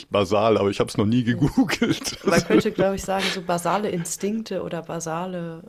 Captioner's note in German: gelächter